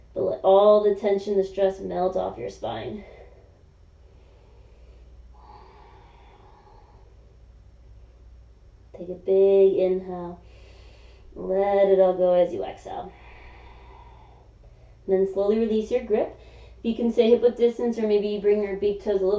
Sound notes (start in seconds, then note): 4.0 exhaling; 10.5 inhaling; 13.1 exhaling